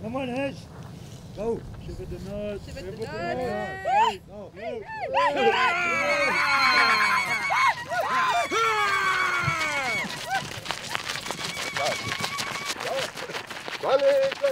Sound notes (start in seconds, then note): 3.0 Shouts of Victory and Lu-Lu's